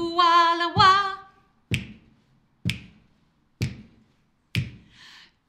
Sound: finger click x4

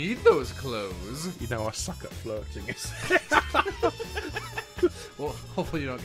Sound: laughter

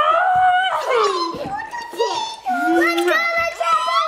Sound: kids yelling

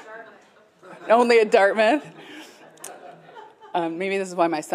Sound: laughter

